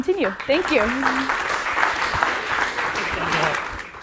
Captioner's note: applause